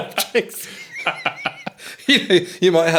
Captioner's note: all laughing